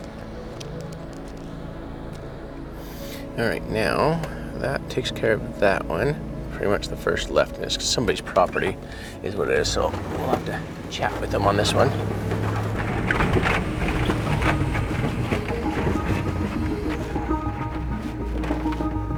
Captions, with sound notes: (suspenseful music continues) - All right, now, that takes care of that one. Pretty much the first left is somebody's property is what it is. So, we'll have to chat with them on this one. (vehicle rattling) (suspenseful music continues)